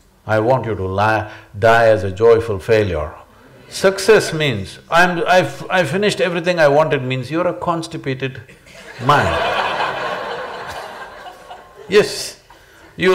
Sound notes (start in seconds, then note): 8.5 laughter